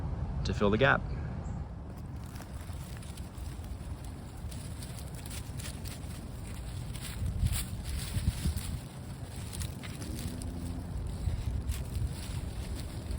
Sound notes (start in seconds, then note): 1.7 planting sounds